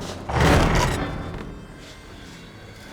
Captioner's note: groaning